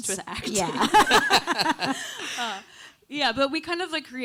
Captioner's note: panelists laughing